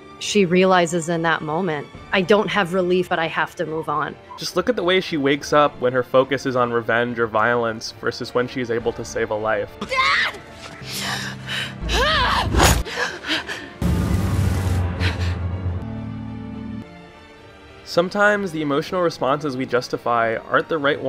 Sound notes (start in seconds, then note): 10.6 startled inhale; 11.6 angry exhale; 12.8 startleder inhale; 14.8 startledest inhale